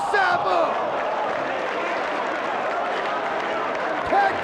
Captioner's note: spectators applauding